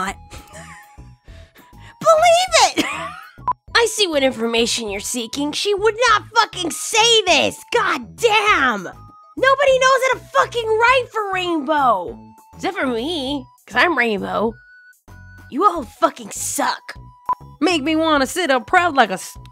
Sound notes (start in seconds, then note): 0.4 laughs softly; 2.7 laughs